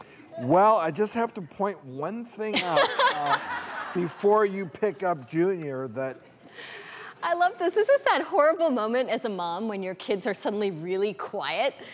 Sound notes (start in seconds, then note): 2.5 audience laughs